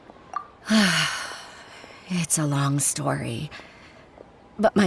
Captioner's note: sigh